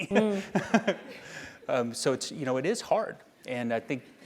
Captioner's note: laugh